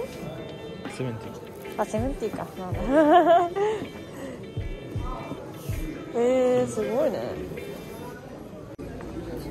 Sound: laughs

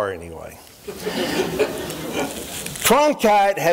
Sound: chuckling

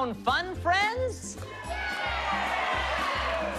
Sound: cheers and applause

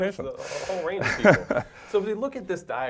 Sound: laugh

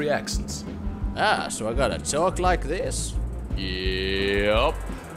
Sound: rubbish country accent

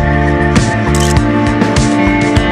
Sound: photo click

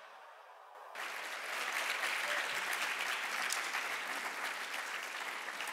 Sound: audience applauding

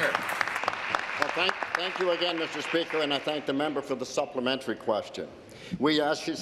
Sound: applause

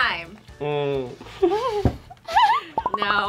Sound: giggles

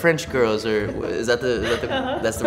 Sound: laughs

